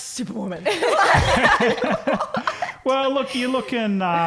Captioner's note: laughing